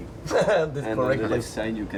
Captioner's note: laughs